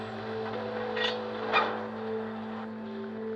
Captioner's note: clanking